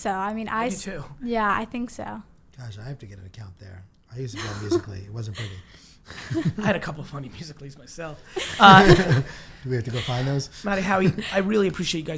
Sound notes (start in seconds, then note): 4.3 laughs; 8.3 laughing